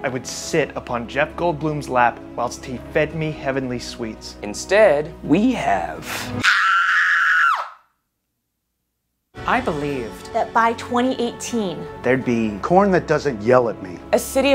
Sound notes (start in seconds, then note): 6.4 screams